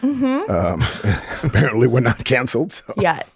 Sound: laughs

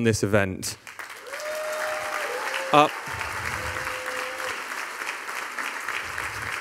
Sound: audience applauding; audience cheering

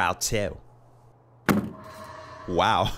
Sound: wall thumps

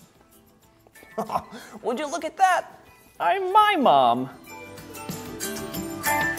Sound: chuckles; upbeat music

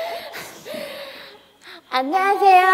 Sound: takes a deep breath

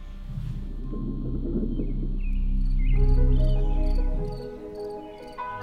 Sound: muffled water draining; birds chirping

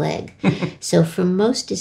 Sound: laughing

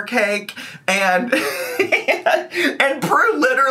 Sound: laughs

